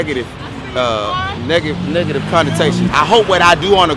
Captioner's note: driver yells "I see you boy!"